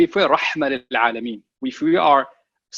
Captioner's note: speaking a foreign language